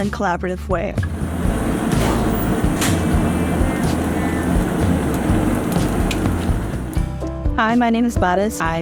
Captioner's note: sound of salmon grilling